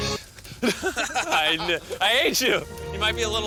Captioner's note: both laugh